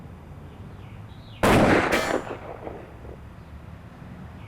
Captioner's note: gunshot bangs